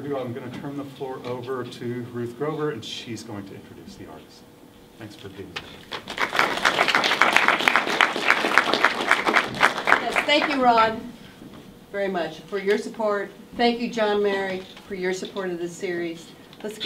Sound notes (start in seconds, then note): 5.8 everyone applauds